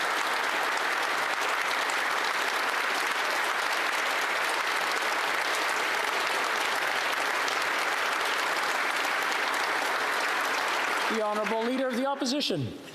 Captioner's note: applause